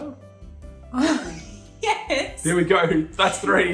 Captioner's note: laughing